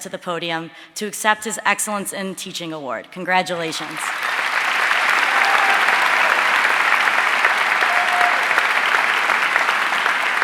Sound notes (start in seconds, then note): 3.6 audience cheering and applauding